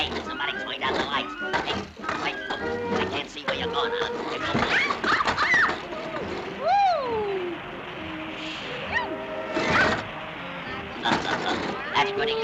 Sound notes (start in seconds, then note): 4.8 Olive screaming; 11.0 Popeye laughs